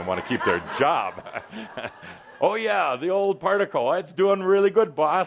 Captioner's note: laughter